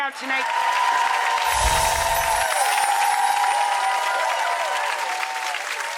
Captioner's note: audience clapping and cheering